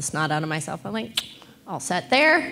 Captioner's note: clicks tongue